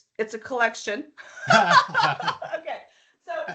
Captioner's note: laughing